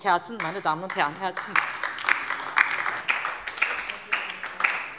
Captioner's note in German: Beifall bei der LINKEN und der SPD